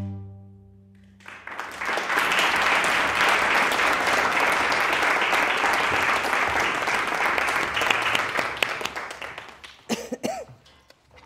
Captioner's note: audience applauding